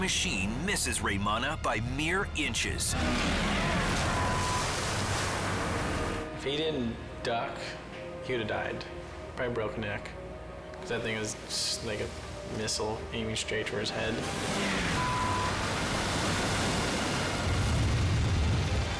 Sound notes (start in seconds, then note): 3.9 beep; 14.5 beep; 15.8 waves crashing